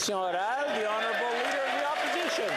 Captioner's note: some Applause